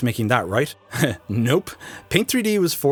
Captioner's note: chuckles